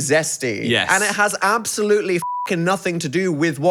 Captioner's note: beep